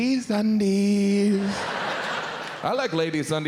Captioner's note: audience laughs